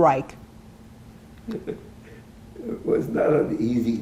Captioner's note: laughing